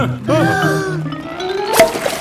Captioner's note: breathing in